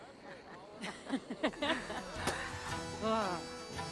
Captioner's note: laughs